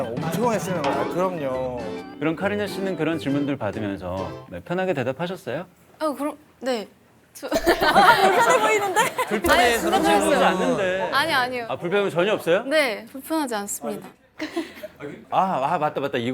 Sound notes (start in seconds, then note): 9.4 murmuring; 14.4 giggling